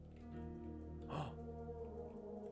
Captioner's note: he gasps